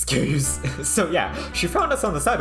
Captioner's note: very loud inhale